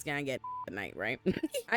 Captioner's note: beep